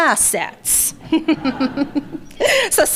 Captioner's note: laughter